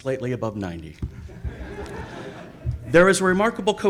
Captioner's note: audience laughs